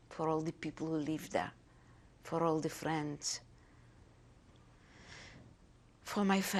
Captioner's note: pauses for 3 seconds